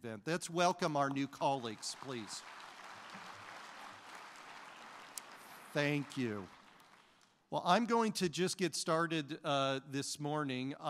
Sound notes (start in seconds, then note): 1.3 applause